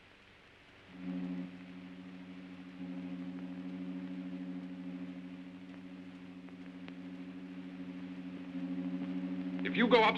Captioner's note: crane humming